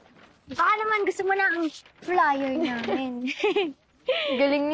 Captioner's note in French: chuckles